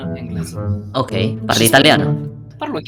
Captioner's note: Italian